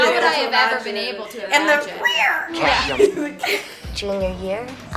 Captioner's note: cat noise